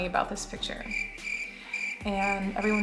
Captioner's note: cricket sounds